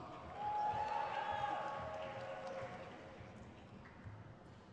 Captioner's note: crowd cheers